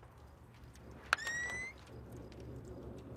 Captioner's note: whistles